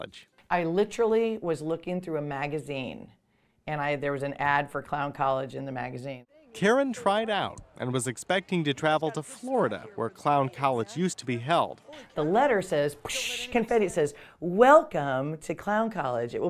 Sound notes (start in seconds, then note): 6.4 voiceover